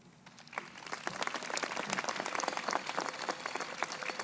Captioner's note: crowd applauding